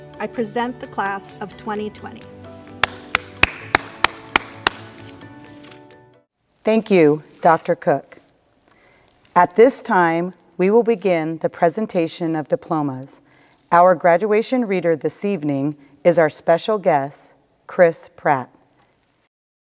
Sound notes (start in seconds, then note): 2.8 clapping